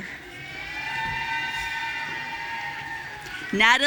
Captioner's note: audience cheering